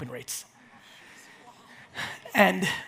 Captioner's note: audience murmurs